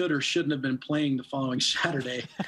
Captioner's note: laughing